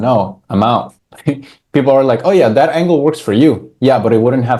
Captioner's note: laughs